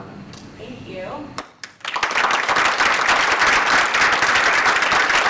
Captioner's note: applause